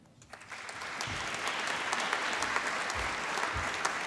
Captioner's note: applause